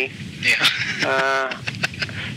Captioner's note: laughs